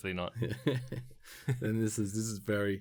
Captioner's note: laughs